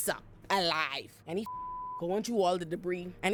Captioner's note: beep